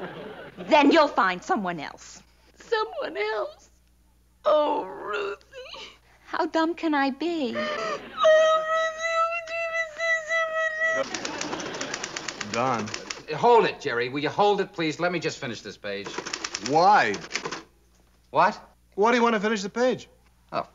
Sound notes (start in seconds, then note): 7.5 crying